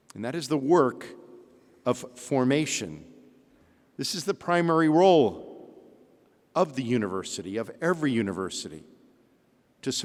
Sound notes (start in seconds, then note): none